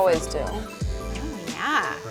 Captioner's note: trimmer whirring